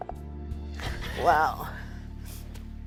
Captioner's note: laughs